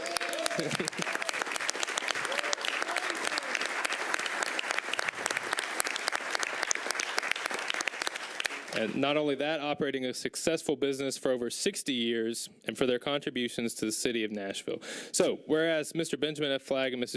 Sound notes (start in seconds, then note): 5.9 applause